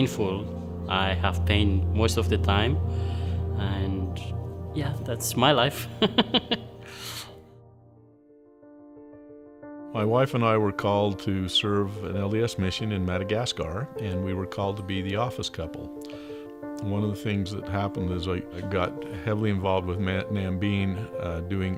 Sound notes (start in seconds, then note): 6.0 laughing; 7.9 gentle piano music